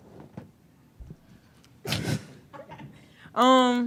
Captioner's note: laughs